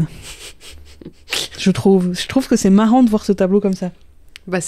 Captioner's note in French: rire